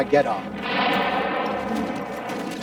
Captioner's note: bazooka blasting